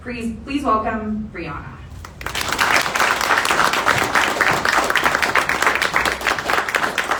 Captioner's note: audience applause